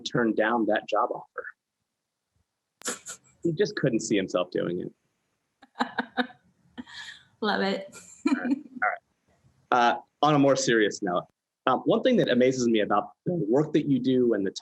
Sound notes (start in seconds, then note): 2.8 laughs; 6.0 laughs